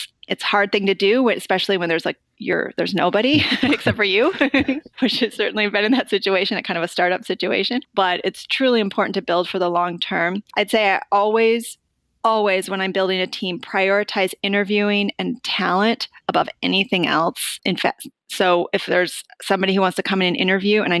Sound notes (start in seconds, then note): 3.3 giggling; 3.3 laughter